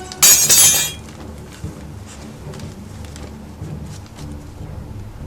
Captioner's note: kitchen tools clattering; eerie music